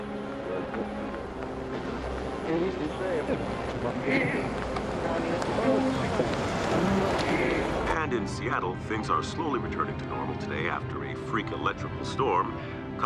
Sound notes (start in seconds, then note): 0.0 indistinct chatter; 7.9 radio